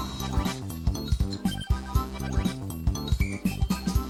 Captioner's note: cackling maniacally